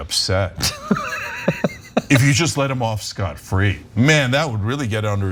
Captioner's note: laugh